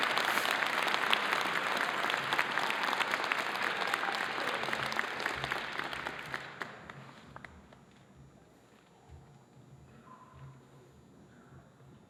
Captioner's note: cheers and applause